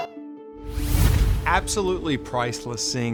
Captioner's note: logo whooshes